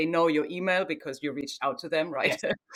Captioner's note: chuckles